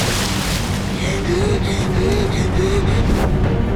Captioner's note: splashing; gasping